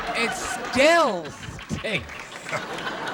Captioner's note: laughter